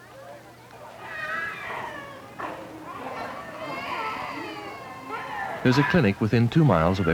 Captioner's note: babies crying